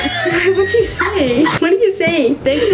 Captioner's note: laughing